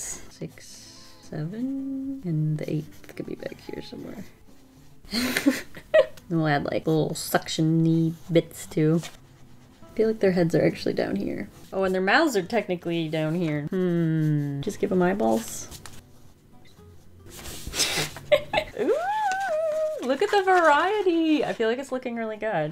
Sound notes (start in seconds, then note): 5.2 laughs; 18.2 laughs